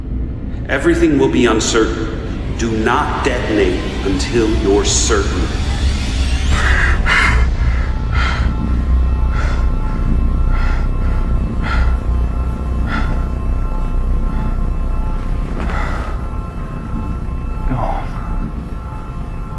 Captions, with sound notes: Everything will be uncertain. Do not detonate until you're certain. (Hawk breathing heavily) - Gone.